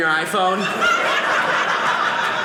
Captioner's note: audience laughing